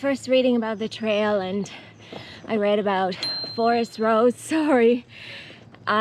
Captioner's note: bicycle bell